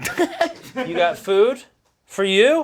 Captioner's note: laughing